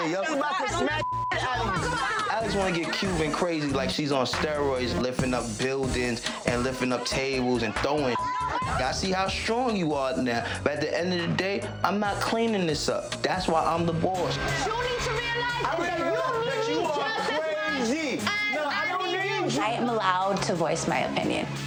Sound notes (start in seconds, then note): 1.7 yelling; 8.5 beeps